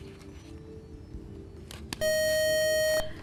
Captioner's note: buzzer